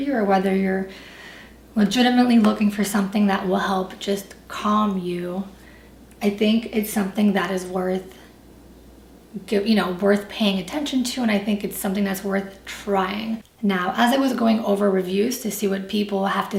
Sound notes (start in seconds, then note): none